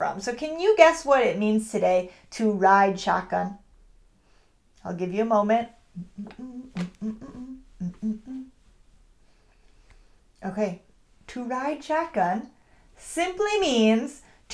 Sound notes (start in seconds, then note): 5.9 humming